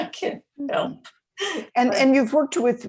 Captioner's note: laughing